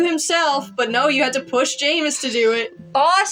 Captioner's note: sigh